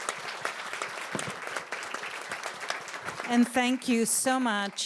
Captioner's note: applause